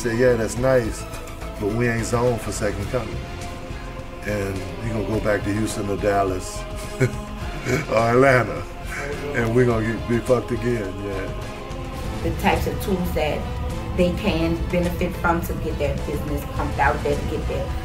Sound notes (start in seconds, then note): 6.6 laughing